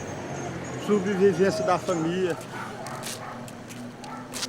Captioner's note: Portuguese spoken audio